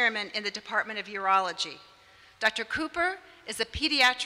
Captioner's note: none